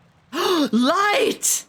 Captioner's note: gasps